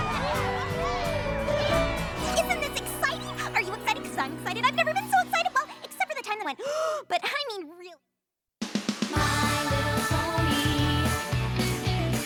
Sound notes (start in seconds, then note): 6.6 gasps